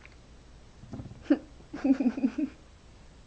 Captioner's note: laughing